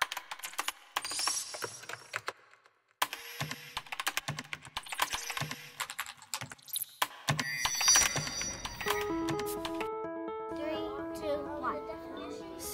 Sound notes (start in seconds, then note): 0.1 computer keyboard clicking; 7.4 electronic sound; 9.0 cheerful music; 10.5 children talking